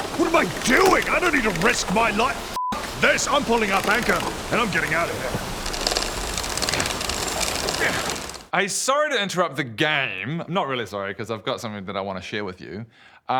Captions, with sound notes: What am I doing??! I don't need to risk my life f*** this I'm pulling up anchor and I'm getting out of here *coward noises* Hey sorry to interrupt the game not really sorry, cos I've got something that I want to share with you